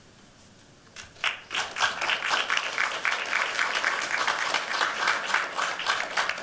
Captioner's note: audience clapping